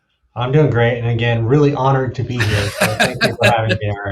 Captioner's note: laughing